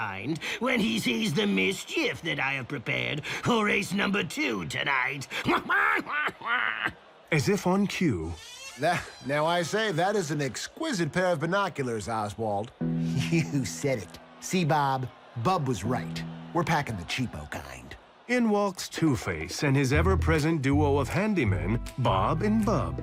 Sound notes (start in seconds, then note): 5.4 squawking laughter; 8.3 door creaks open